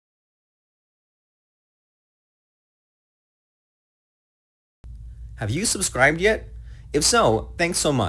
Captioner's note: pause three seconds